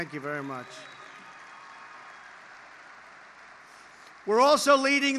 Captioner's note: applause